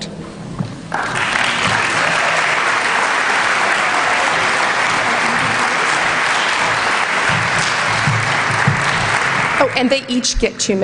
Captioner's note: applause